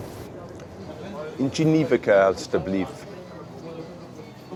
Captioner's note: speaking in flemish